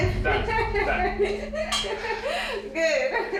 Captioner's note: laughing